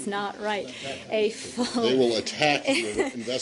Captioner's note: laughter